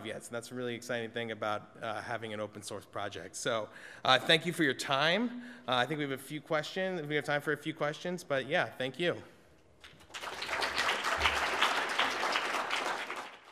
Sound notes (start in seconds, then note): 9.8 applause